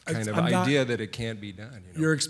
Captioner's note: voiceover